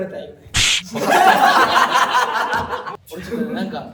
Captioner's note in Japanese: 笑い声